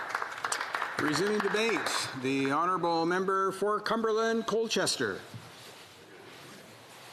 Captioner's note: applause